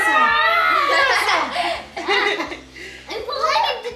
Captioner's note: everyone laughs